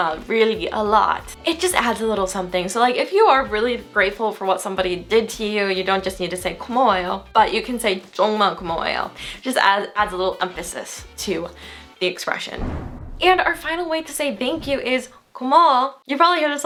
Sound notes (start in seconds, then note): 0.0 foreign language; 7.1 foreign language; 12.5 whooshing; 15.6 foreign language